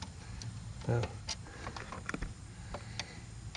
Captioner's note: faint clicking